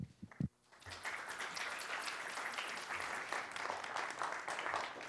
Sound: audience applauding

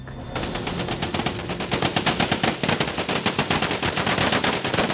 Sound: guns firing rapidly

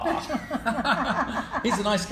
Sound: laughing

